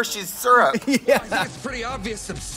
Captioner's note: Katya laughs